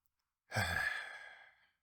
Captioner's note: sigh